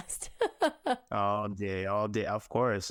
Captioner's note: laughing